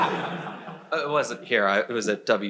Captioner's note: crowd laughs